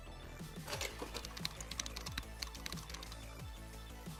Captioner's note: keyboard clicks